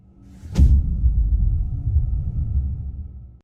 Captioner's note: dramatic sound